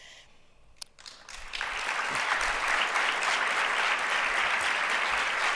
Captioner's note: audience applause